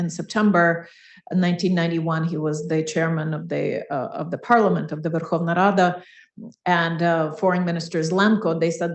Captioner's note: foreign language 01:04:57